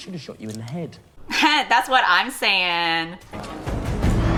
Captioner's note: laughs